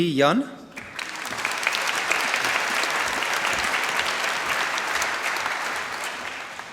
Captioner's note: applause